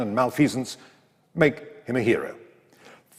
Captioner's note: none